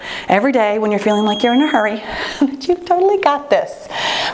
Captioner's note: bell chimes